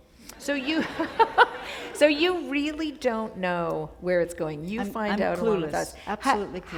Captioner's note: chuckle